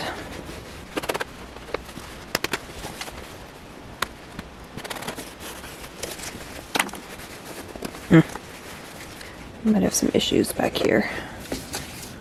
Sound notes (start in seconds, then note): 0.0 sped-up scratching noises